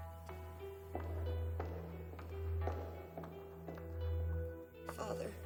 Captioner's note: footsteps clacking over eerie electronic music